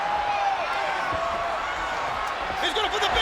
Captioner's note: crowd cheering